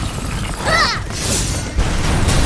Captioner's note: stabbing noise; explosion